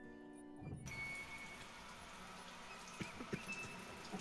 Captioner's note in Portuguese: som da água caindo